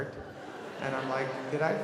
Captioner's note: audience laughing